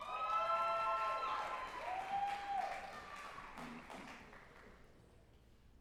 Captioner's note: group applauding and cheering